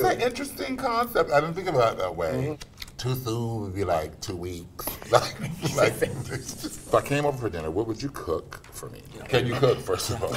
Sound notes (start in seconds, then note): 5.0 laughs